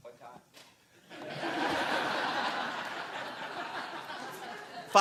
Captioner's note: laughter